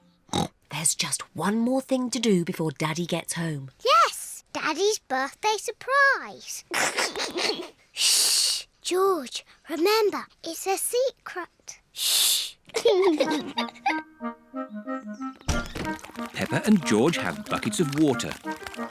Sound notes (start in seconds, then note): 0.3 oinks; 6.6 giggles; 12.7 both laugh